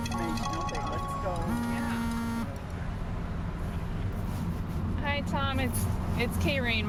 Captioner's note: drowned out by phone ringing